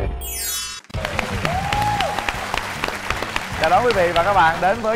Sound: applause

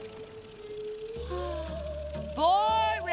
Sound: sighing

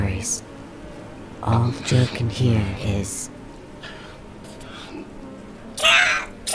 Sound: sharp inhales, and pained gasps for air

